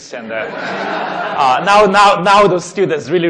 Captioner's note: laughing